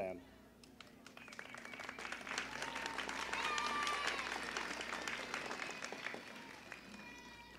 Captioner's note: applause and cheering